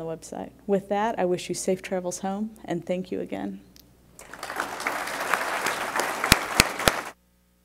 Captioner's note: applause